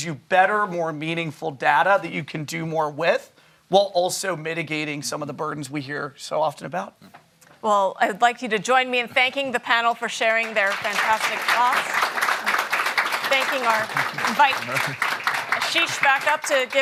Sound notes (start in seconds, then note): 11.9 applause